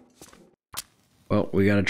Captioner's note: match Strike